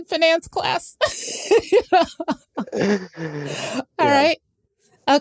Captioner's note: laughter